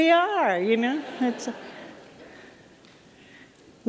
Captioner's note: laughter